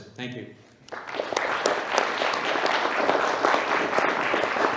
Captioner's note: applause